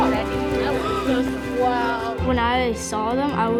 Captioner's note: kids chattering